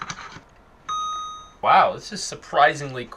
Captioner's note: dings